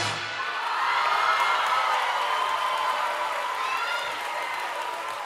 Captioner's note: audience cheering and applauding